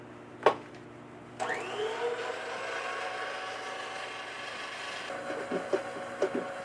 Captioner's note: whirring